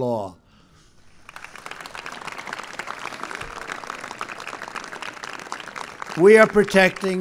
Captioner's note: applause